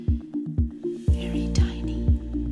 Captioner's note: whispering